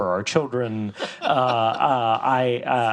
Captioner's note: host laughs